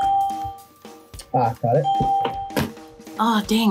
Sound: bell rings

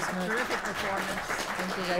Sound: applause

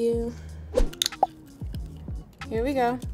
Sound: oyster cracking

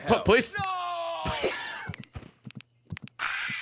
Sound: laughs

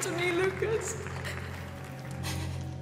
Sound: applause

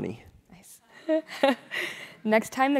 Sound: laugh

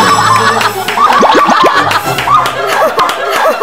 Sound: laughing out loud

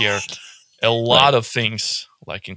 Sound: laughs

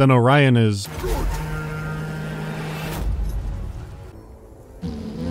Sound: sound of invisible horn; sound of visible horn

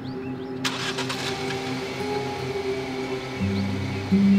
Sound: engine starts

